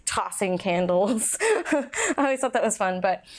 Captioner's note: laughs